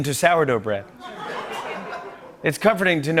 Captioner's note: laughter